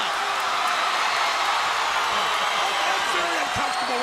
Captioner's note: crowd cheering